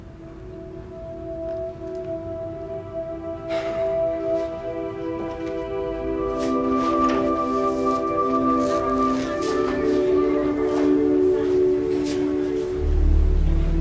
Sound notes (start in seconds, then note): 3.4 sighs; 4.7 instrumental music